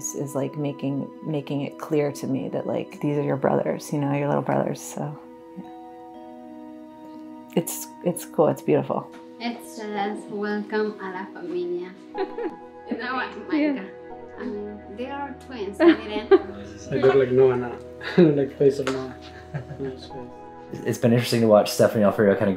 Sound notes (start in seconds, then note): 15.8 laughter; 19.2 laughs